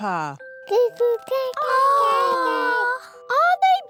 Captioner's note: babies gurgle